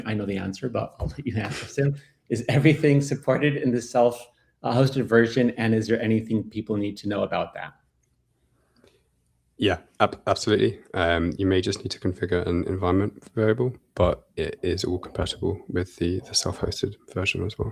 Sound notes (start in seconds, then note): 1.2 laughs